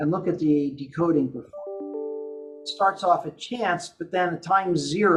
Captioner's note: computer sound